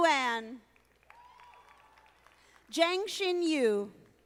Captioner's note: audience applauding